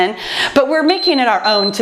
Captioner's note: timer beeps